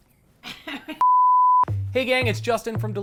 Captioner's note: people laughing